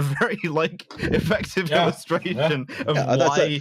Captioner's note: laughing